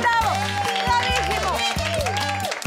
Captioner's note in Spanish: Ovación